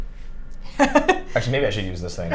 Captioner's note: laughing